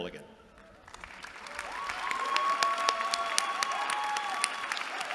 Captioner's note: applause